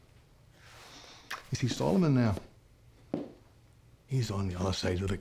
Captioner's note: scottish accent